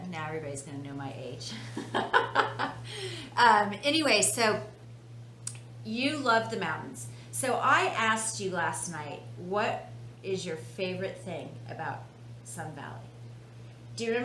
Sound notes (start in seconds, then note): 1.7 laughs